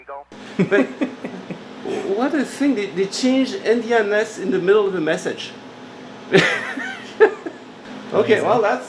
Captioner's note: laughter; laughter